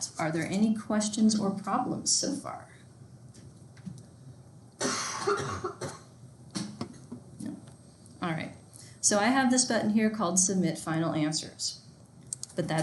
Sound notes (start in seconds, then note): 4.8 coughing